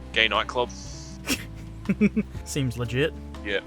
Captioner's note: laughs